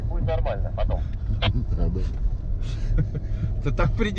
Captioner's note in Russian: смеются